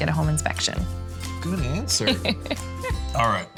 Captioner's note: laughing